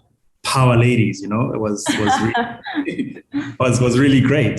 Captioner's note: laughs